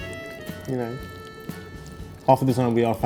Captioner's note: pasta squelching